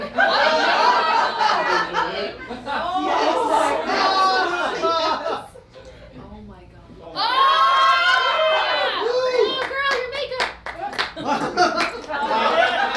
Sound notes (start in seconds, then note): 0.0 laughing; 7.2 cheering